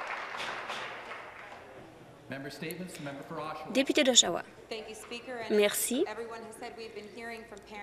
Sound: some Applause

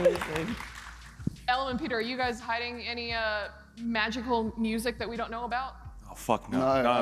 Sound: applause

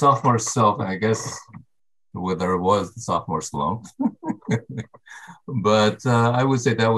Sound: chuckles

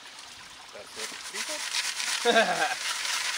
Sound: rocks clattering; chuckles

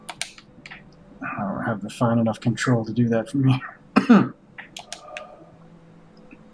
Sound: coughs

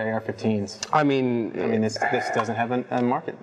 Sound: sighs

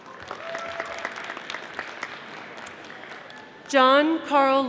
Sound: audience applauding

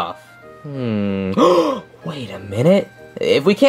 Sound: gasps loudly

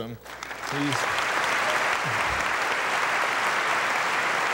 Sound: audience applauding

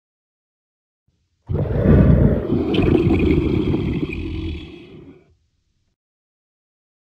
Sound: sound of tiger roar

